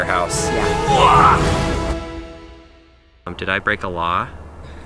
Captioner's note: grunts